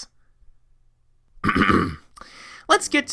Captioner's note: clears Throat